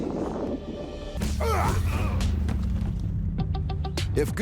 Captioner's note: men grunting